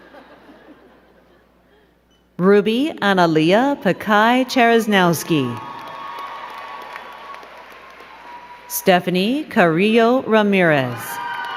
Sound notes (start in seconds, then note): 0.0 crowd giggling; 6.1 crowd cheering and clapping